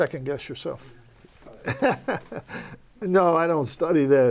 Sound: laughs

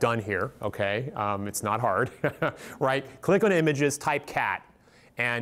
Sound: laughs

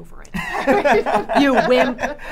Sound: both laughing

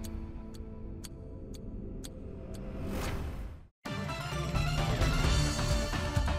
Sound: clock ticking; powerful music

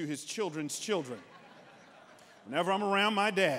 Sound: congregants laughing

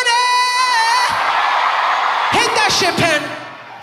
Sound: audience applauding

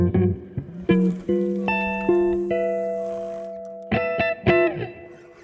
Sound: fishing pole reeling

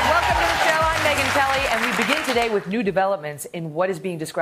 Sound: applause

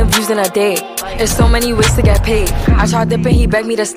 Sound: grah

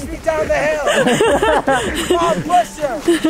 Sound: laughing

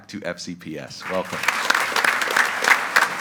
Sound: group applauding

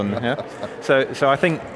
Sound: laughter

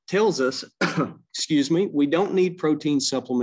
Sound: coughs

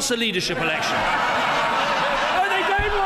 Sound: laughter

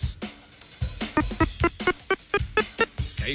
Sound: beeping

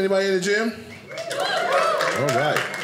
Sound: audience cheers

